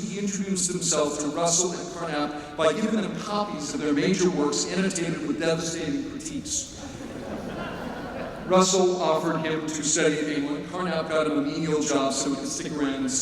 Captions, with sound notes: he introduced himself to Russell and Carnap by giving them copies of their major works inundated with devastating critiques. [LAUGHTER] Russell offered him to study in England. Carnap got him a menial job so he could stick around and study